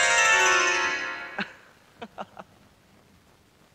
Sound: laughs

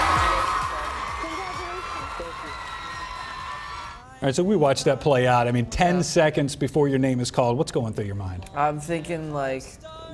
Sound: cheers

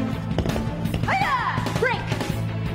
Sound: intense music; Page shouting

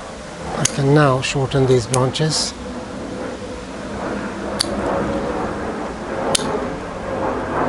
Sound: aircraft noise

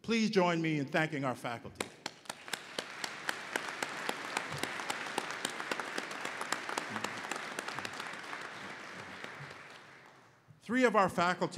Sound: applause

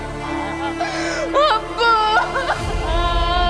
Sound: wailing

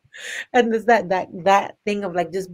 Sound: laughs

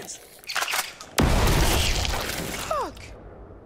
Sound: loud exploding

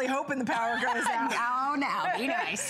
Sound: laughter

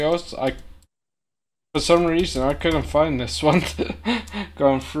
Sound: laughs

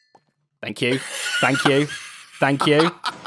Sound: laughs

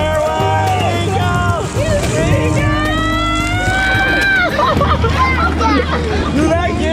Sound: laughs

